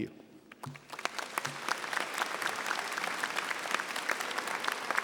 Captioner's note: audience applauding